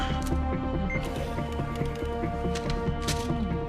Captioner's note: machine beeps